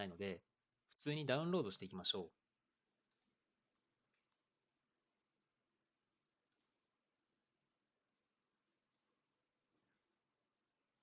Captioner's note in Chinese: 四秒停顿; 十七秒停顿